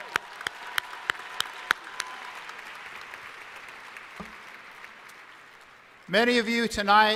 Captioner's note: applause